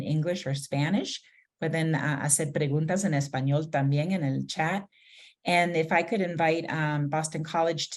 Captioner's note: speaking spanish